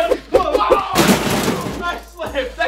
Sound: crash

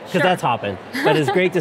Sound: laughs

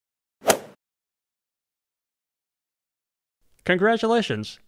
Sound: golf swing sound effect

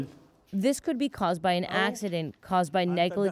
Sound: speaking Foreign Language

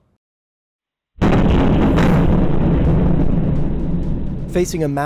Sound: missile explodes

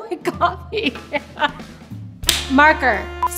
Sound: chuckles; clap

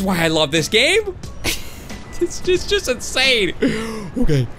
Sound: laughing

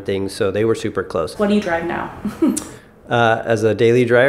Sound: laughs

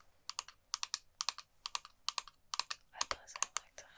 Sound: tapping

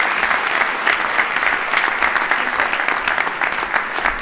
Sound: applause

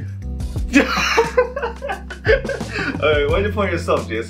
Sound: laughing

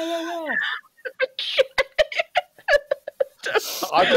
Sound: laughter

